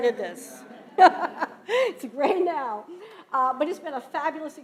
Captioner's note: laughing